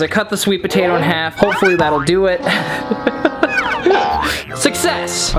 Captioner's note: laughs